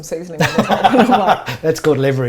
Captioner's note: laughs